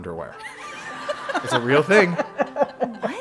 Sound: laugh

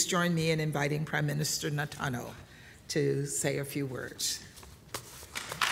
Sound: applause

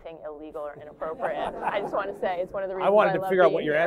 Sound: laughter

